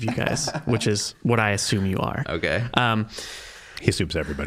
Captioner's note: chuckling